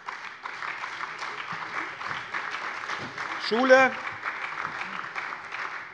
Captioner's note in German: Beifall bei der SPD